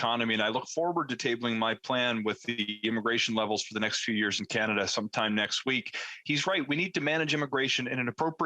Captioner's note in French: voix de l'interprète